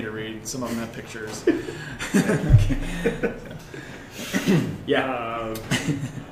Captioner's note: laughter